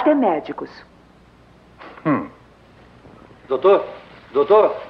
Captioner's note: scoffs